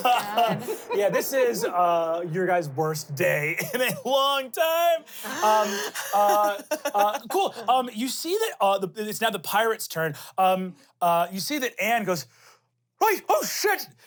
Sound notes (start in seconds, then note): 6.1 laughs